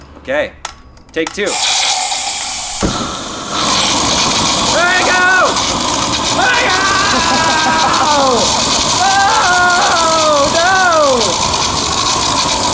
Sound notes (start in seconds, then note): 0.0 clicking; 1.6 gas hissing; 2.9 fire burning; 6.4 screaming